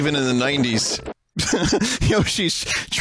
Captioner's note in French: rires